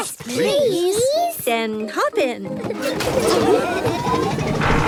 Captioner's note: laughing